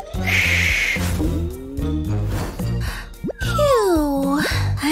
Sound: snoring

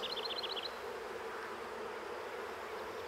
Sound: humming, birds chirping

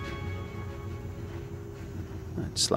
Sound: ground car slows down

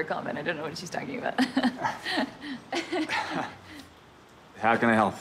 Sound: laughing

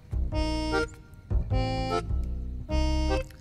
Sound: none

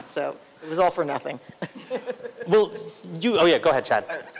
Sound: laughter

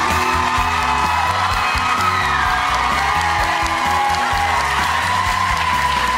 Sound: applauding and cheering

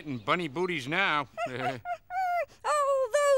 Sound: laughing

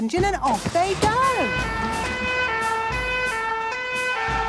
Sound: siren sounding

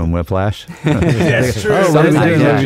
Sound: laughing

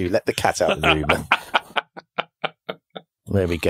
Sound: laughing

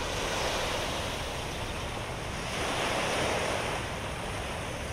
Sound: ambient beach sounds

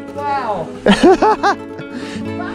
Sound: laughing

